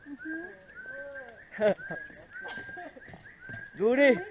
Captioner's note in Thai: เสียงนกร้อง